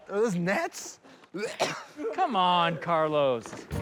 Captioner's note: coughs